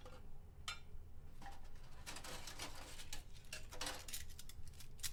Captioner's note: metal rattling